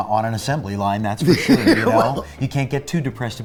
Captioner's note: laughs